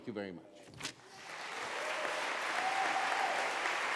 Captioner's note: applause